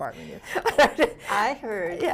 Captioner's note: laughs